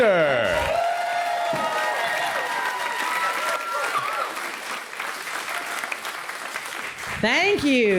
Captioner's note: applause